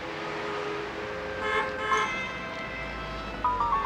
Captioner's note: horn honks; light playful music